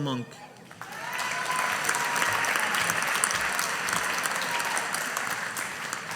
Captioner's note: audience applauding